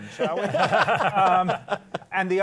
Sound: laughter

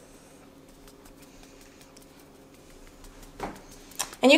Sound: fingers tapping

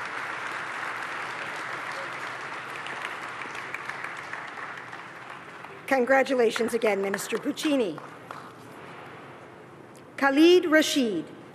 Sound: applause

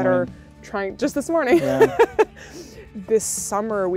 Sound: chuckles

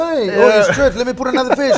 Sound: laughs

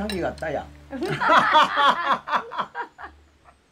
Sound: both laughing

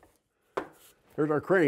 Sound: slams wood on table

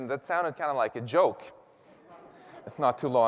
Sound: laughter

